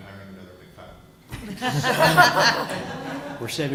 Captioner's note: laughter